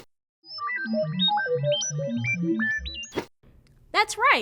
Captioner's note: electronic beeping